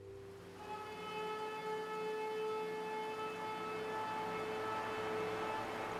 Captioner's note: horn Blowing